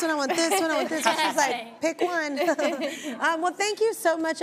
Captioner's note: laughs